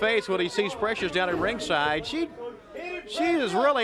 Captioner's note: crowd chatter